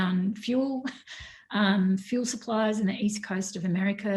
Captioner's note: laughs